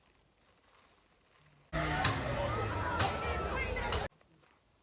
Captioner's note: sirens and Vocies